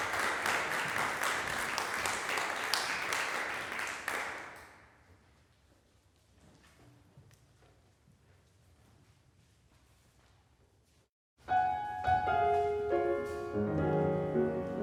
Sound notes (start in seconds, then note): 0.0 applause fades; 4.9 silence